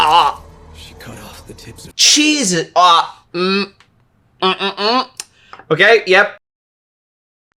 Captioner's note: gags